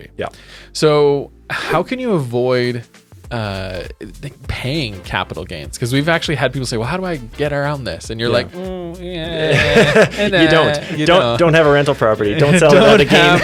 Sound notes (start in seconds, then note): 8.4 laughs